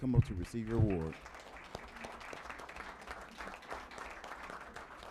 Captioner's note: applause